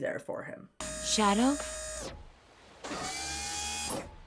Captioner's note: servos whirring